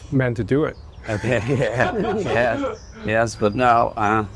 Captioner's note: laughter